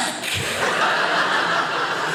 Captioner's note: audience laughing